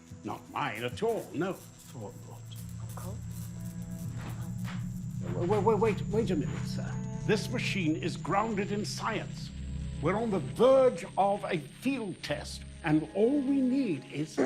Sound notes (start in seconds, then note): 3.7 electricity crackling